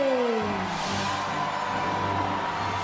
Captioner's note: cheers and applause